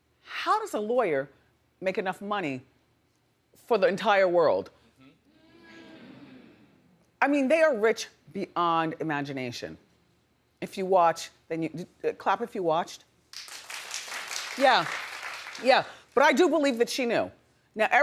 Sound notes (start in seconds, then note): 13.3 audience clapping